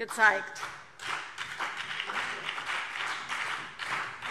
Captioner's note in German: Beifall BÜNDNIS 90/DIE GRÜNEN und vereinzelt CDU